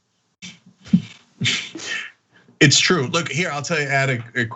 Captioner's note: laugh